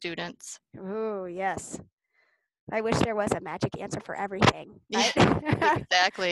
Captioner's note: laughs